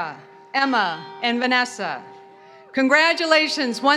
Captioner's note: bell rings in background